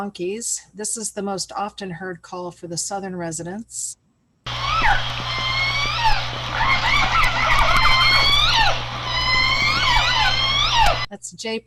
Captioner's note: squeaking